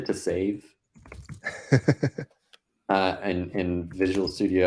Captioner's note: laughing